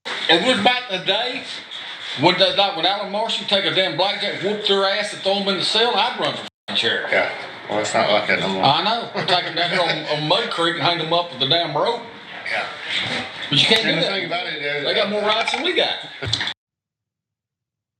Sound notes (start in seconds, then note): 8.7 laugh